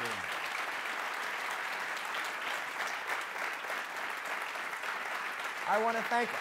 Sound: applause

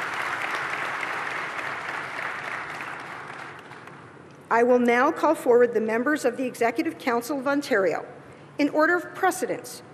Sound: applause

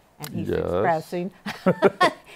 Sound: both laugh

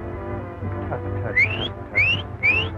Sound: Hardy whistles

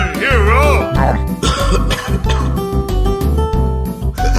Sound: gold infection noise

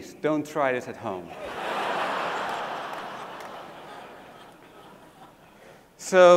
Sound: laugh

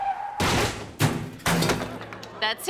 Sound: tires screeching; crashing

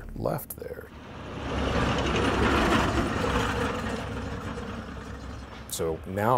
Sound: semi-truck passing

